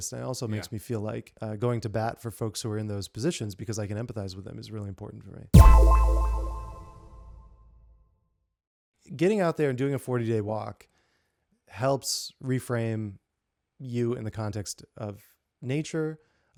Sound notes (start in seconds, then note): 5.5 tone echoing